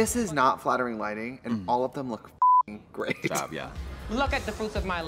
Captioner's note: beep